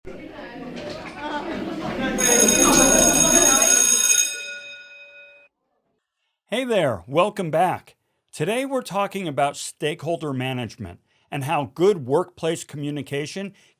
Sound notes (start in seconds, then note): 0.1 people chatting; 0.1 bell ringing